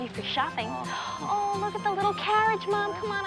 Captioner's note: gasps